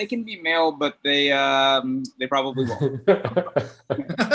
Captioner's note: laughs